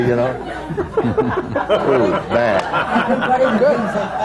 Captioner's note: laughter